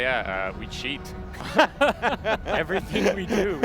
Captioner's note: all laughing